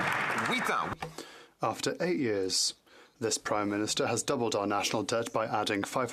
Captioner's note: some Applause